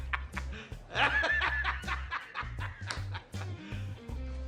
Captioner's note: J. Jonah Jameson's laughter; continues laughing